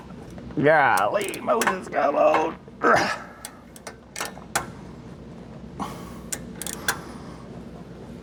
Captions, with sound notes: Golly, Moses, God, Lord. (Grunts)